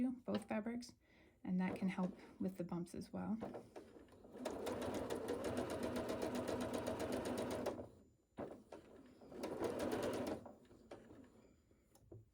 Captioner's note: sewing